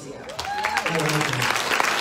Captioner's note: audience applauds